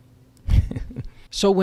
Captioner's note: chuckles